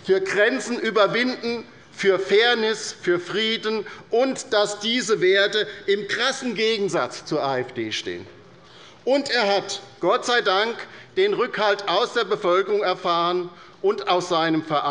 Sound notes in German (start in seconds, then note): none